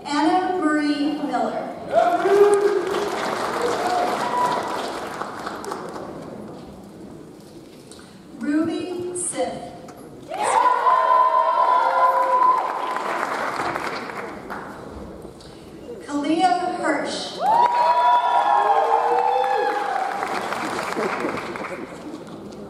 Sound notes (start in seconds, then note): 4.9 audience applauds; 10.3 audience cheers; 10.8 audience applauds; 17.4 audience cheers; 17.4 audience applauds